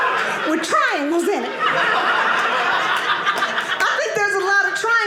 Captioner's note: audience laughing